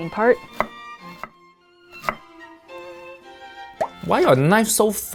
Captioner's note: knife thudding; lively music